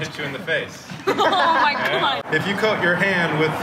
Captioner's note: laughing